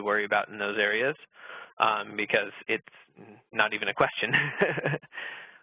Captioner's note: laughing